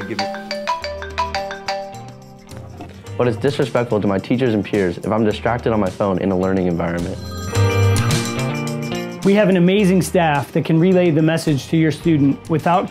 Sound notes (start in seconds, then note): 0.0 cell phone ringing; 7.1 phone ringing